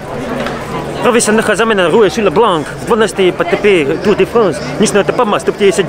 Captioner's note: bad French accent